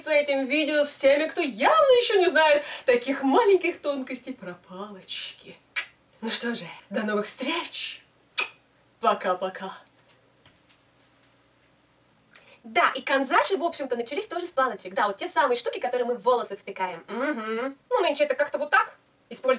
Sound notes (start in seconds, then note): 8.3 kiss